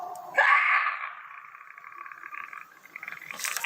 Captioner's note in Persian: صدای جیغ